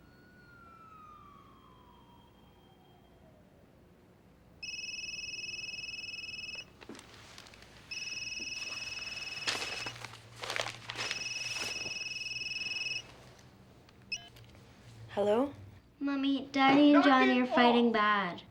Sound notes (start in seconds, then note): 4.6 cell phone ringing